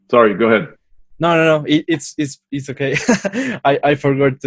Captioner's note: laughs